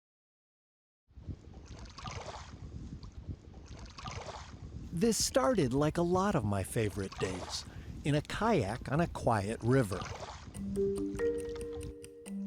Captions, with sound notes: (water splashes) This started like a lot of my favorite days, in a kayak on a quiet river, (gentle music)